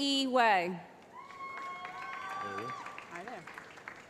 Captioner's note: cheering